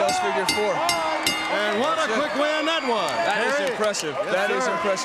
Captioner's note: bell ringing